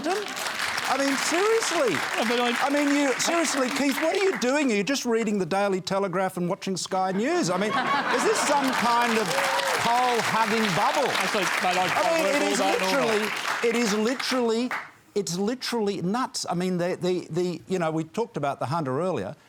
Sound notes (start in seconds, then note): 0.0 applause; 7.2 laughter; 8.8 cheering and applause